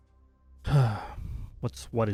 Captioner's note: sigh